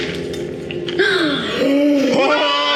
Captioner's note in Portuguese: Suspiro